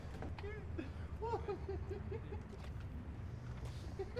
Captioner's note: giggles